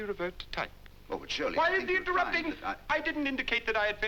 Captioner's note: yelling